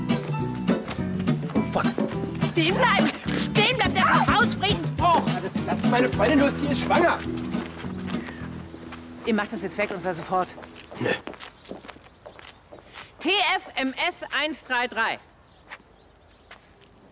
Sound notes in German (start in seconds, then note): 5.6 berlinerisch